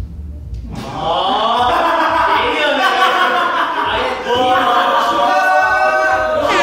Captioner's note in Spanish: ¡Muy observador! Se echaron a reír